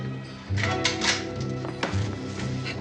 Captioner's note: rifle cocks